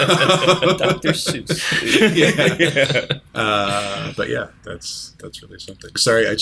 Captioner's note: laughter